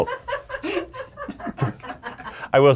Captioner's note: people laughing